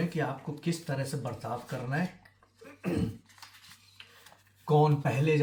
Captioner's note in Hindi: खांसने की आवाज़; गला साफ़ करने की आवाज़